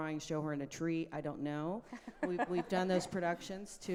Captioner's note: laughing